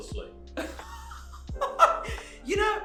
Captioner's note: hysterically laughing